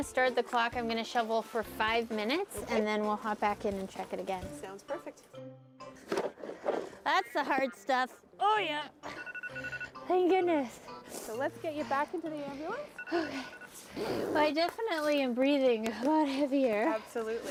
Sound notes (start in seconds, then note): 6.0 shovel grating; 9.1 alarm beeping; 12.8 alarm beeping